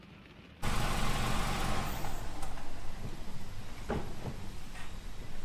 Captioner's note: motor hums